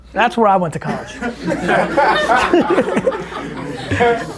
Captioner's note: group laughter